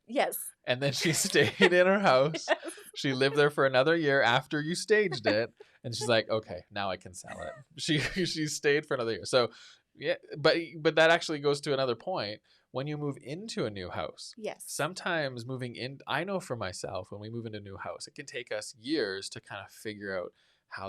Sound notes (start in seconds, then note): 0.8 laughing